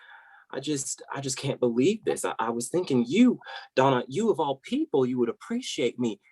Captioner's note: normal voice